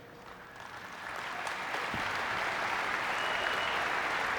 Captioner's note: audience clapping